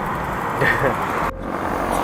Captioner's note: laughs